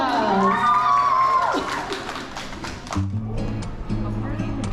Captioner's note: cheers and applause